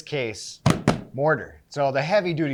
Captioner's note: hands thumping